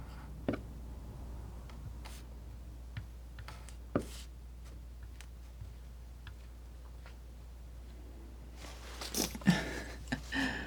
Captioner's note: laughing